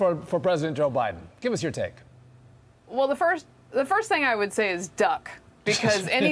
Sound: laughter

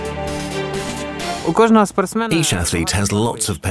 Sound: speaking Ukranian

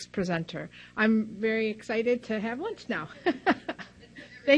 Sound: laughs

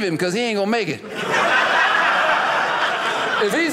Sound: audience laughing

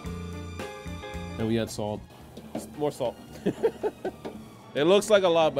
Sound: laughs

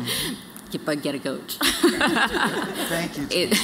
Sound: laughter

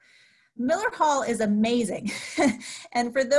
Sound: laughs

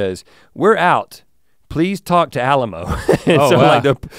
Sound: chuckles

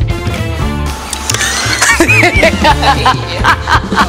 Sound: laughter

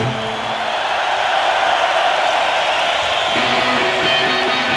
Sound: audience applauding; upbeat music

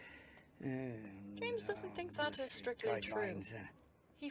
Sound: Filch mumbling

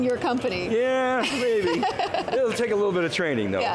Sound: laughing

